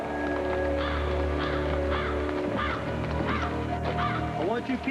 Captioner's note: crow cawing